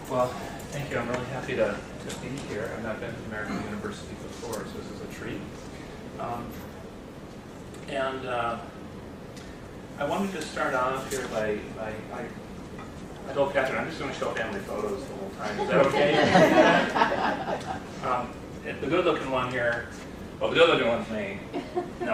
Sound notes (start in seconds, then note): 15.4 laughter